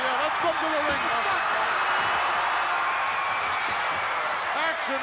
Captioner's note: audience cheering